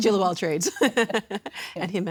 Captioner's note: laughing